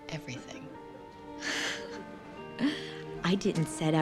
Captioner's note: chuckles